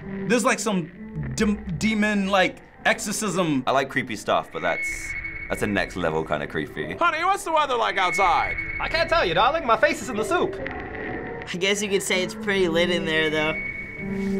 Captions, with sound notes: There's some like demon exorcism. - I like creepy stuff, but that's a next-level kind of creepy. - (stately voice) Honey, what's the weather like outside? - (stately voice) I can't tell you darling, my face is is in the soup. - I guess you could say it's pretty lit in there, though.